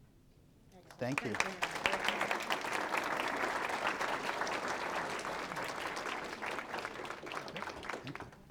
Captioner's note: room applauding